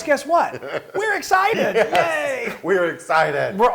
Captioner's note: laugh